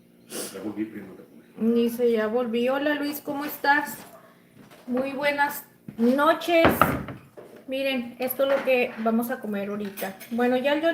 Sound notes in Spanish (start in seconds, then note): 0.3 resoplido